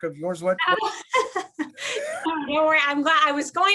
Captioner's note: laughter